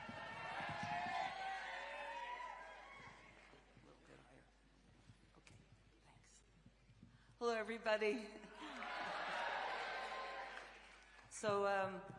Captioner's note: cheering